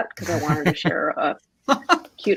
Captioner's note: laughs